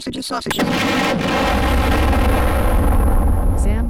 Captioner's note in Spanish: explosión